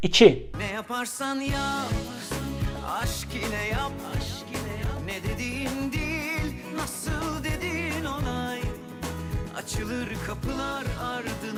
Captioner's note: Turkish